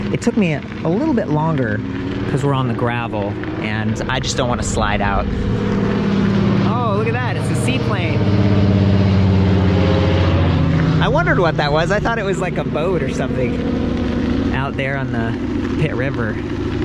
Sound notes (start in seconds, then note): 5.7 plane engine revving